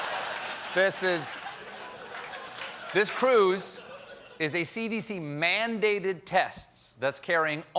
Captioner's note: laughter